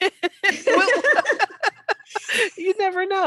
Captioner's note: laughing